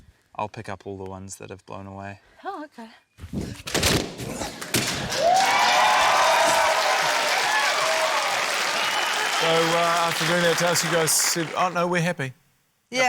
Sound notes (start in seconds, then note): 3.7 grunts; 4.6 pop!; 4.9 cheering, applause